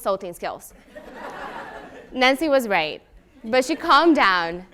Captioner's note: laugh